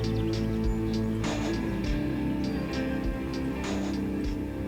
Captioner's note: birds chirping